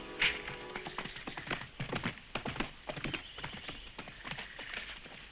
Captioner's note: birds chirping; hooves thudding